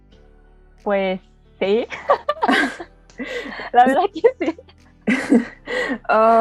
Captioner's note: nervous laugh